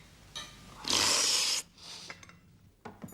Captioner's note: slurping sound